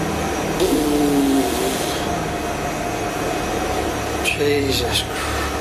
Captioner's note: blows raspberry